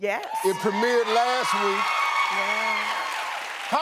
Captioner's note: audience cheering